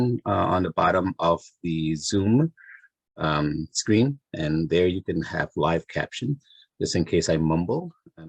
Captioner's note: none